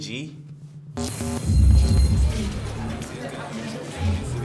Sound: sound distorts

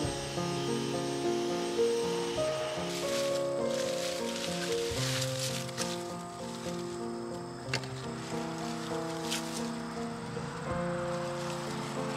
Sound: vacuum cleaner roaring; leaves rustling

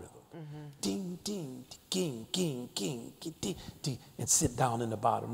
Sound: mimicking drum beats

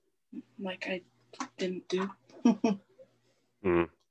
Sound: chuckles

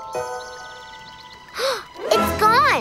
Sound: gasping

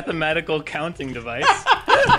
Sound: unrestrained laughter

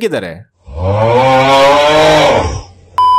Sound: contented Screams

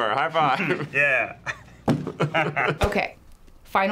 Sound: both chuckle

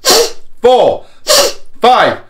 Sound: whistle of air

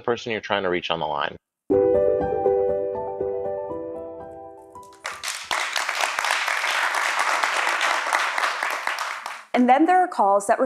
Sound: applause

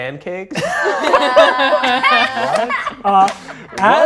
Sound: cast laughing

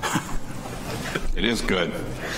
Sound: board members chuckle

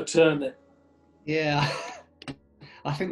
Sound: laughs

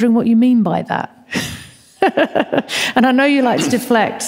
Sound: laughs

